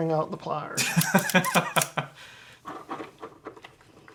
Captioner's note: laughs